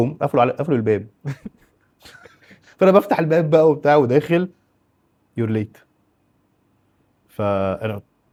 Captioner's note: laughs